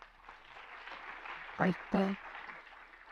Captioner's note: applause